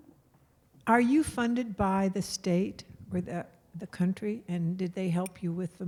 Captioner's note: voiceover